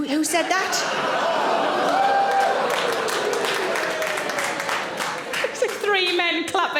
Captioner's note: audience exclaiming; audience applauds